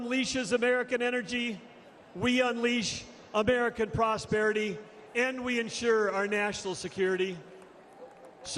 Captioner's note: crowd shouts "trump!"